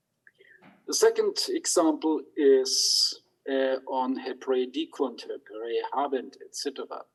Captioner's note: speaks in Hebrew